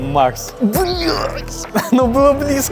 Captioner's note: swears in Russian